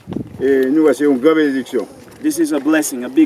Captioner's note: speaking in foreign language